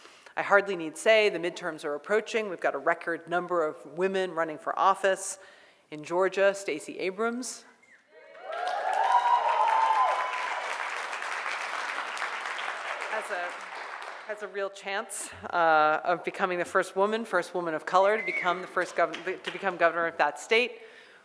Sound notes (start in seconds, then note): 8.2 cheering and applause